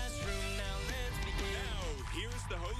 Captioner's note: cheers and applause